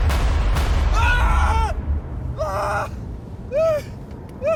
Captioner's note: Alan screaming